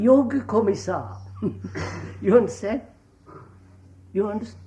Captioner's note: laughs